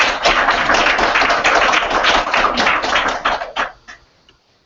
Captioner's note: applause